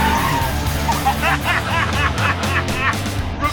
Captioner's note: both laughing